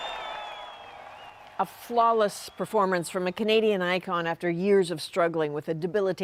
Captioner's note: cheers and Applause